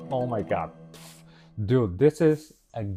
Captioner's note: static noise